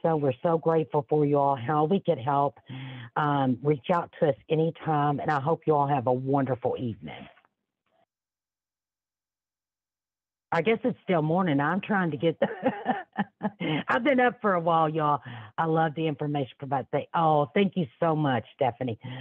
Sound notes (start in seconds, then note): 12.4 laughs